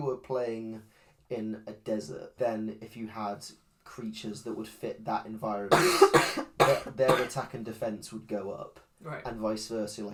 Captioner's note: coughs